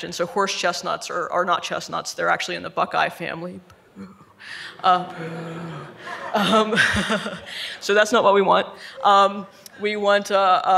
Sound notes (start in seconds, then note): 6.3 audience laughing